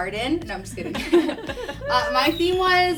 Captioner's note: all laugh